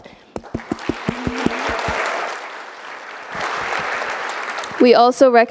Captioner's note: audience applauding